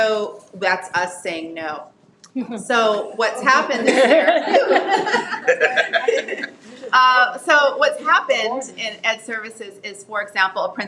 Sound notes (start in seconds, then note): 4.5 members laughing